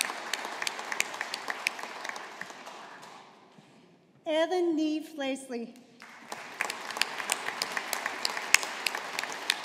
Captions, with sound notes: Ellen Niambh Leslie. (AUDIENCE APPLAUDING)